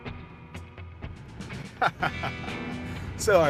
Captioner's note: laughs